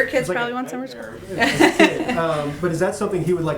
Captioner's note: laughter